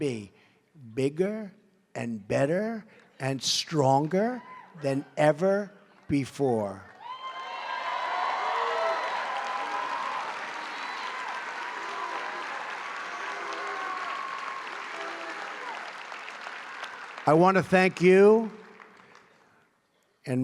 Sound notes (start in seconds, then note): 11.5 applause